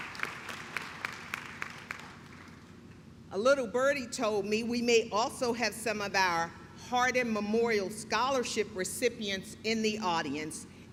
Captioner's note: clapping